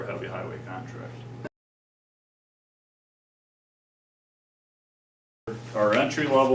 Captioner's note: silence